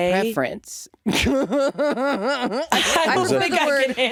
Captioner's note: Jinkx laughing